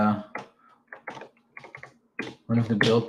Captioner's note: keyboard clacking